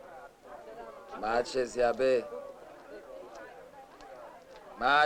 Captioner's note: non-english speech